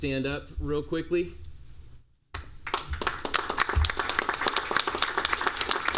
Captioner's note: applause